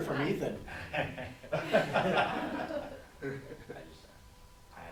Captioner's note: laughing